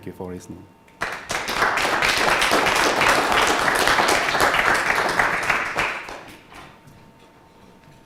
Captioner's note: clapping